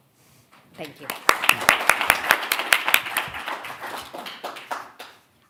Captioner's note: audience applauding